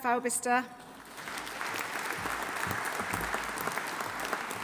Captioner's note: audience applauding